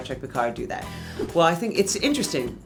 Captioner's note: air whooshing